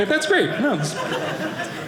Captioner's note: audience laughing